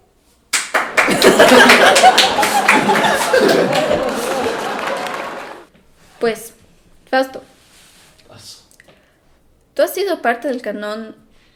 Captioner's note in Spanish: Aplausos y risas